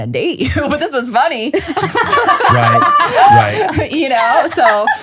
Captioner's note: laughing